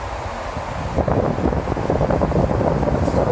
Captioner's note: ventilator blows